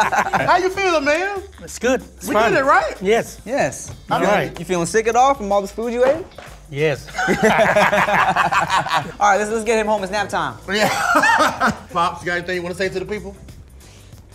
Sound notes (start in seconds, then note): 7.0 all laughing; 10.8 laughs